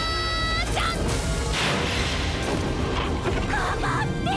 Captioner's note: sounds of attack